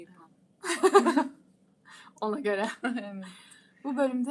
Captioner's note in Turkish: kahkaha